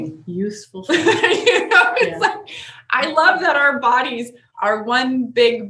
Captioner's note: laughs